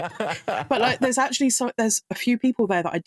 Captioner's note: laughing